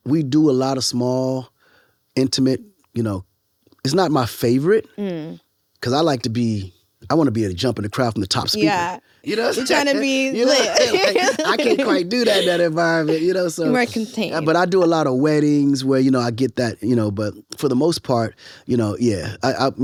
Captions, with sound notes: We do a lot of small, intimate, you know. It's not my favorite. - Mm. - 'Cause I wanna be able a jump in the crowd from the top speaker. - Yeah, you're trying to be lit. (both laughing) - I can't quite do that in that environment, you know? - You're more contained. - But I do a lot of weddings where I get that. But for the most part, you know, yeah.